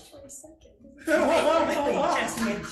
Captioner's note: panel laughs